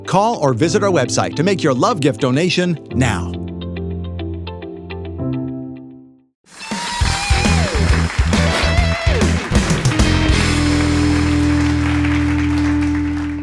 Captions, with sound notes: Call or visit our website to make your love gift donation now. (lively blues-rock music) (audience applauding)